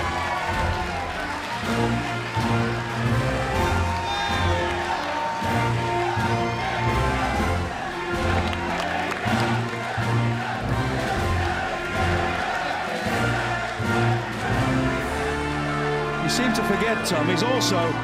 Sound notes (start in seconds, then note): 1.3 crowd cheering; 10.7 crowd chatter